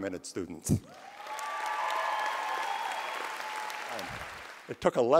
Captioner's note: applause